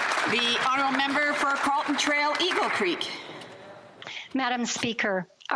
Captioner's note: applause